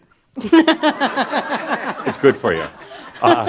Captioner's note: laughter